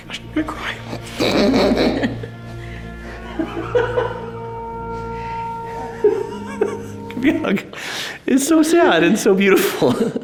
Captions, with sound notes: - Oh, I'm actually gonna cry. (both laughing amusingly) (quiet gentle music continues) Gimme a hug. It's so sad and so beautiful.